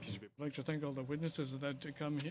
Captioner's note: speaking in French